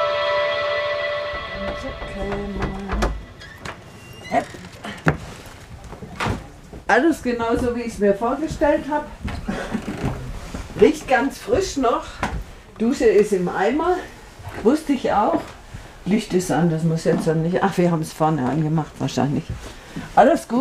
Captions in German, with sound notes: (Knacken, Gemurmel) (Ächzen) Alles genau so, wie ich's mir vorgestellt hab. (Knarren) Riecht ganz frisch noch. Dusche ist im Eimer. Wusste ich auch. Licht ist an, das muss jetzt nicht ... Ach, wir haben vorne angemacht wahrscheinlich.